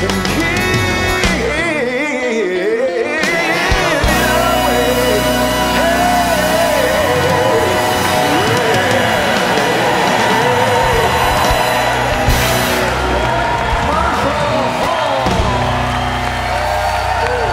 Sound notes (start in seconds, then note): 11.1 applause